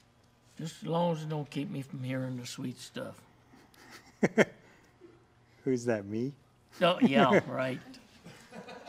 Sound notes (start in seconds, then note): 8.2 laughter